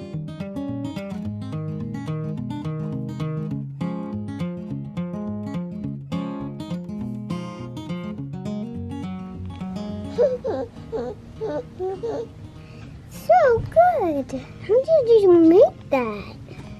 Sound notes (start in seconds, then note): 10.2 laughs